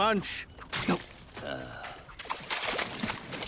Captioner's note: groans